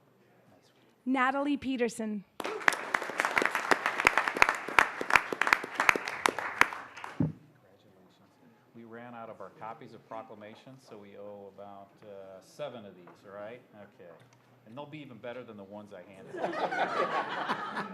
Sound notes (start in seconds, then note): 2.3 applause